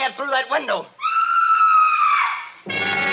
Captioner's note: siren wailing